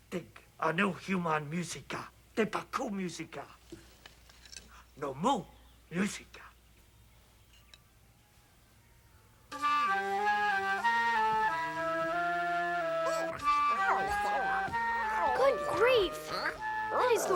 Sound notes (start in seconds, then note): 9.5 flute plays melody; 15.2 Tasha babbles